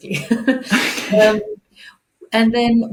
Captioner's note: chuckles; laughs